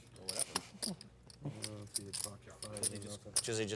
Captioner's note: laughs